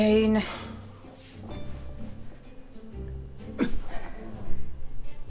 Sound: sigh

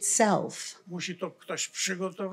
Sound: foreign language

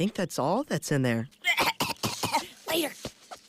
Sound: coughs and retreats

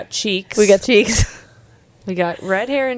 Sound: laughs

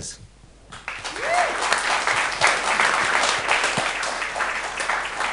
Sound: audience applauding

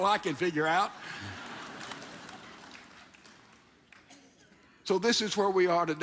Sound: audience laughs!

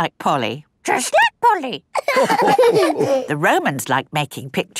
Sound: all laughing

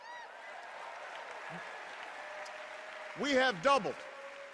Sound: cheers and applause

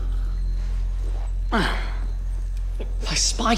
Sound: groans

